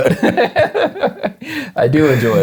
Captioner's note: laughing